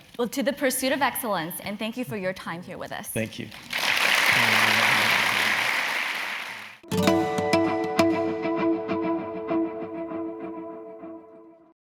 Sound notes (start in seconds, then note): 3.5 applause